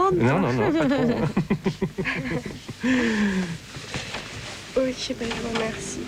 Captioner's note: laughs